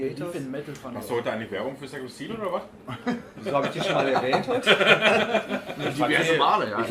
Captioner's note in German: lachen